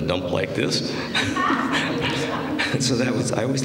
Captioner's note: laughter